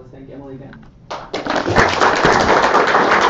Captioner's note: audience clapping